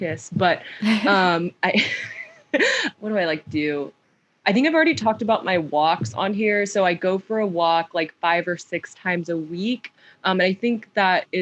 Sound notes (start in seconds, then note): 0.9 laughs; 1.7 laughter